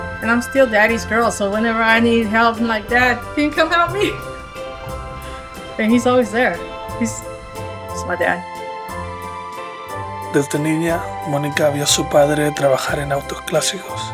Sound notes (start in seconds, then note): 3.4 laughs; 10.6 narrator speaks Spanish